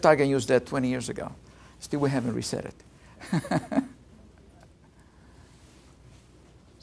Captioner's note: laughs